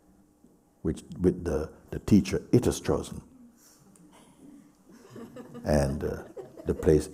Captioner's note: laughter